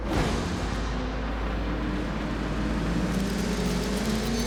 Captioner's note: engines whirring